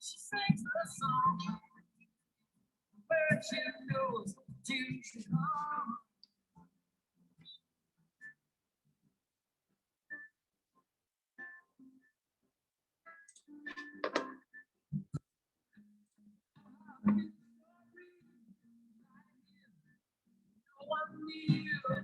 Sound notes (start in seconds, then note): 13.7 keyboard clacks; 17.2 music continues playing indistinctly